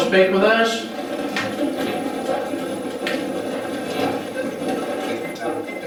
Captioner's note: static playback transmitting